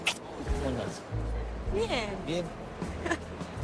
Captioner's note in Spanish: ríe